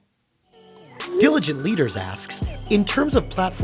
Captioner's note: voiceover